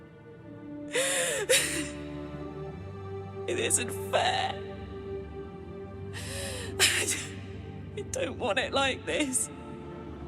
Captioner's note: sobbing